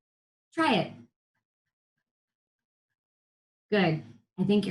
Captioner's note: whispers